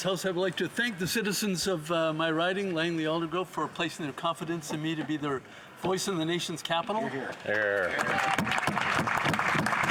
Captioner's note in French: voix de l'interprète